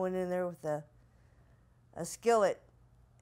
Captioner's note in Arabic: none